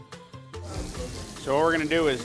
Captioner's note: pan sizzling